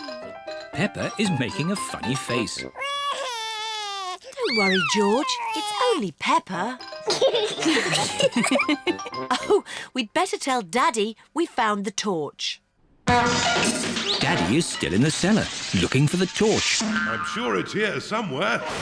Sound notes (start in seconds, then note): 2.8 cries; 7.3 all laugh; 13.1 crashing